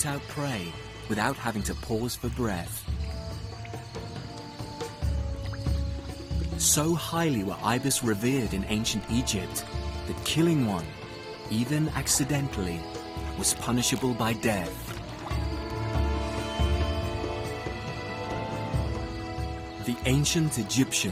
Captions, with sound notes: that killing one, even accidentally, was punishable by death. (lively music continues) (insects buzzing) The ancient Egyptians believed the Nile flood was the will of the gods. The annual arrival of millions of tons of fertile mud seemed nothing short of supernatural.